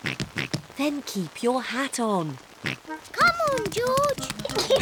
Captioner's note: oinking; oinks; giggles